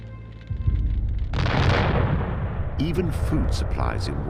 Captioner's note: explosion booms